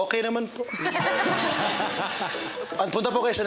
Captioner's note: laughing